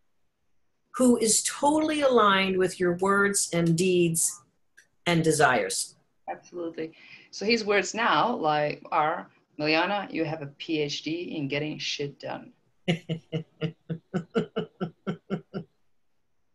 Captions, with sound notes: who is totally aligned with your words, and deeds, and desires. - Absolutely. So his words now are, Milijana, you have a PhD in getting shit done. (laughs)